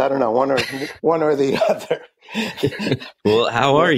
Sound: laughing

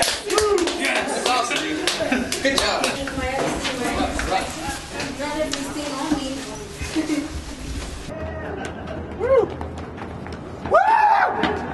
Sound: cheering

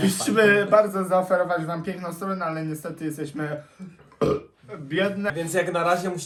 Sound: burps

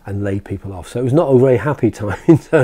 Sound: chuckles

